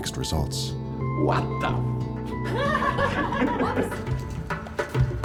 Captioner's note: laughter